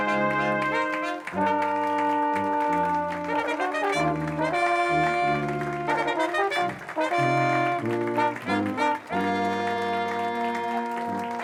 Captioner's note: applause as music continues